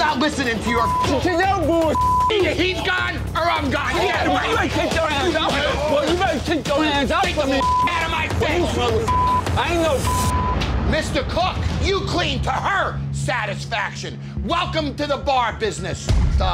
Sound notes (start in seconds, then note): 4.3 yelling; 10.0 beep